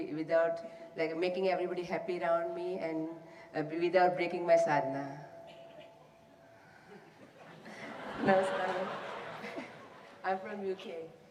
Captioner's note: laughter